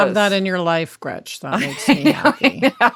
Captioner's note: laughing